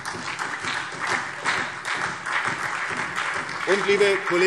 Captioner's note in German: Beifall : Über den Tisch gezogen worden!